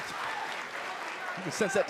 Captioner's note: crowd cheering